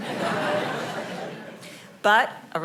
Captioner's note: audience laughing